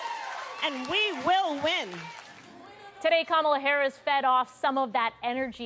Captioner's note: cheers and Applause